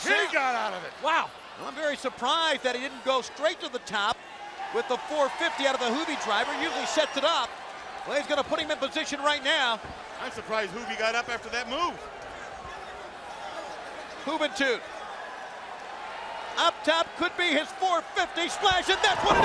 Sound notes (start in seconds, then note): 13.8 crowd chatter